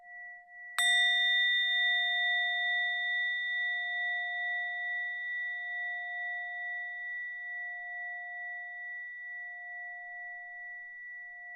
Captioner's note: bell sound